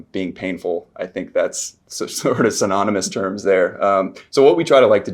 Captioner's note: chuckles